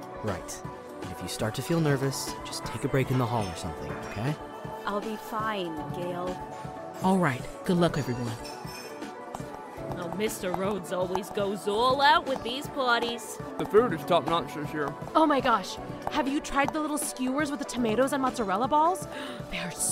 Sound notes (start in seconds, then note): 9.2 loud music and chattering; 9.2 footsteps